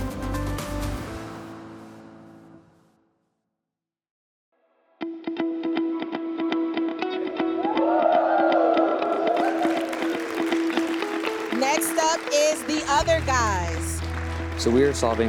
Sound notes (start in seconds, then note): 0.0 lively music continues; 5.6 upbeat music; 8.1 crowd cheers; 10.3 crowd applauding